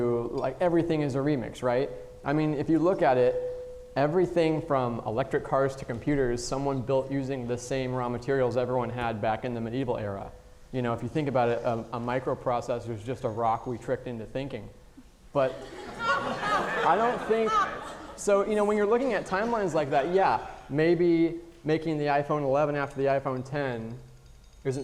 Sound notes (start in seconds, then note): 15.5 audience laughing